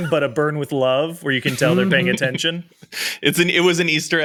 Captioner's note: charles laughs